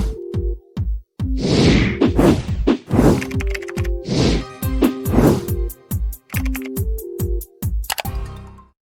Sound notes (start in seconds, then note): 2.8 upbeat music; 3.4 keyboard typing